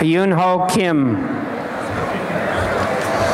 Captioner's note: applause